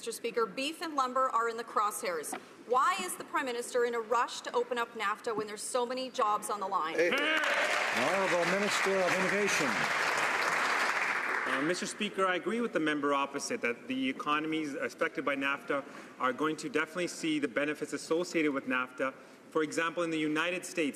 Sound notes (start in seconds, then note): 11.8 some Applause